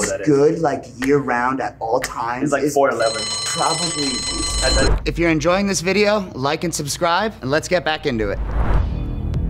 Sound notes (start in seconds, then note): 2.9 alarm blaring; 8.4 wind whooshing; 8.7 seductive music